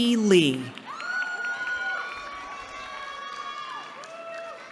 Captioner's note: cheering